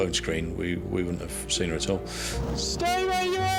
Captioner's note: inhales sharply